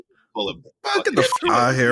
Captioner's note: beep